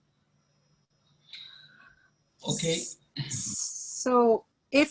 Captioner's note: speaking Farsi